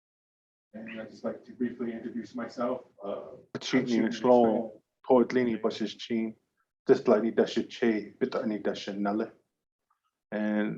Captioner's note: indigenous language 00:40:56